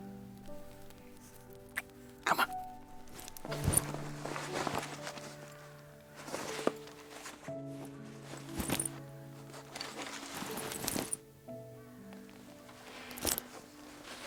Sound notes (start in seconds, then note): 0.2 gentle orchestral music; 3.8 bag rustling; 6.4 gentle orchestral music continues